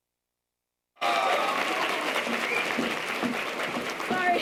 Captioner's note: audience applause